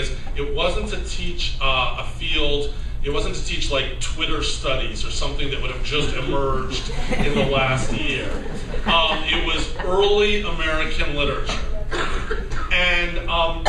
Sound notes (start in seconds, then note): 6.6 laughter